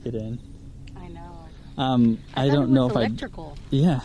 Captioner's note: car